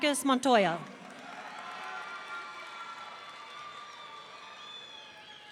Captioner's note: audience cheering